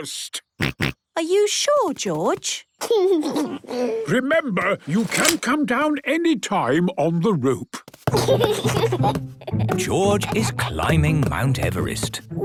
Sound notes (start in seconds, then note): 0.2 George snorts; 2.9 giggles; 8.1 giggles